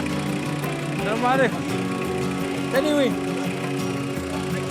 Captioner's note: Arabic spoken audio